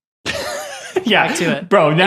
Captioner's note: laughing